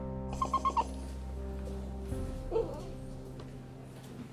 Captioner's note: Ollie chitters